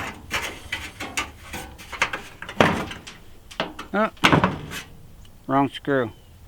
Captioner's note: talking weird because there is a screw in my mouth